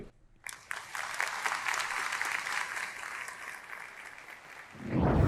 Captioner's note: audience applauding